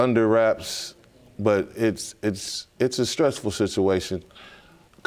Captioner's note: stammering